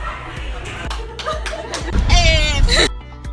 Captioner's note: clapping and laughing